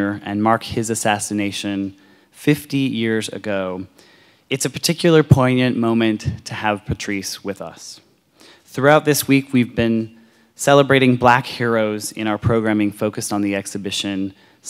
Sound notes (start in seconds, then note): none